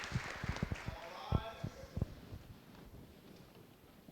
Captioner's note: voiceover